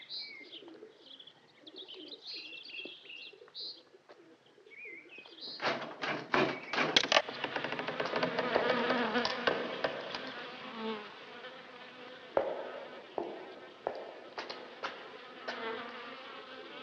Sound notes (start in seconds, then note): 7.0 flies buzzing